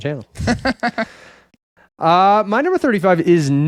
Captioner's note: laughing